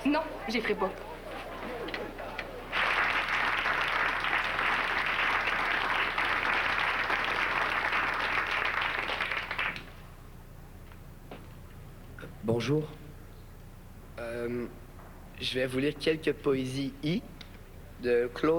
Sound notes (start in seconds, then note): 2.6 Applaudissements